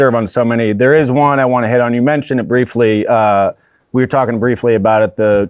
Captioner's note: none